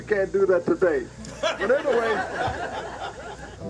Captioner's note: laughter